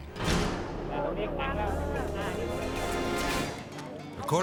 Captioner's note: villagers talking